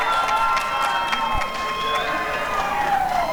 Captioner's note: applause and cheering